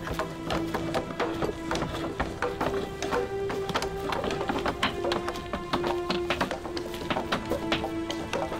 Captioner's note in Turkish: Kütük yontma sesleri